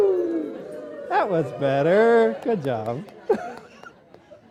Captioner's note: applause